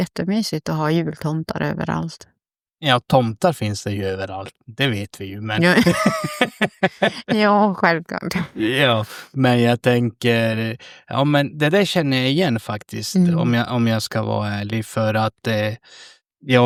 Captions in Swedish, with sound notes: jättemysigt att ha jultomtar överallt. Ja, tomtar finns det ju överallt, det vet vi ju. Men [skratt] ja, självklart. Ja, men jag tänker ja men det där känner jag igen faktiskt om jag om jag ska vara ärlig för att eh